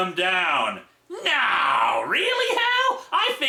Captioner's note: sarcastic tone